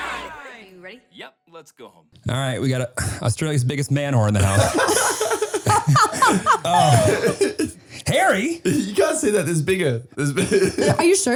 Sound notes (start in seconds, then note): 2.9 clears throat; 4.2 all laughing